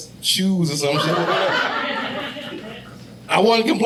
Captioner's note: audience laughing